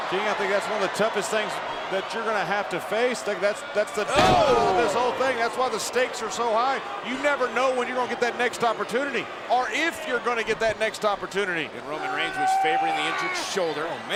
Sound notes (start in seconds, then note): 4.1 Ambrose crashing